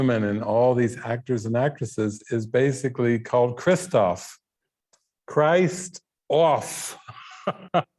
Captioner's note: laughing